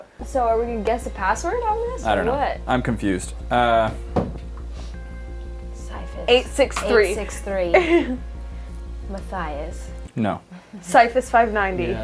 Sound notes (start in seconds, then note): 5.9 in a creepy tone